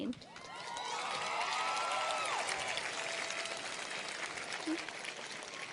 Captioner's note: audience cheers and applauds